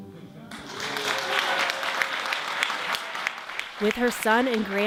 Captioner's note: audience clapping